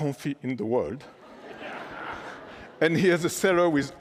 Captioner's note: laughter